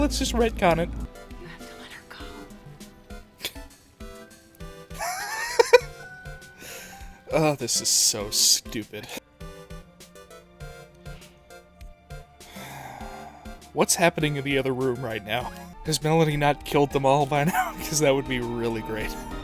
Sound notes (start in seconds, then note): 4.9 giggle; 5.0 scoff; 12.4 sigh